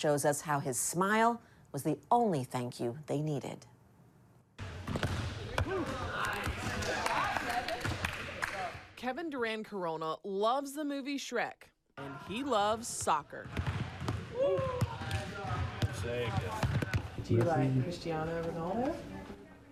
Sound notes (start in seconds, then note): 5.4 players chattering; 14.8 players chattering